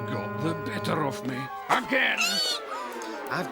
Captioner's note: squeals